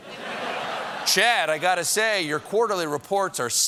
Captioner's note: laughter